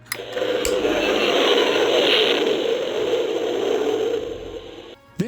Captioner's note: spaceship sound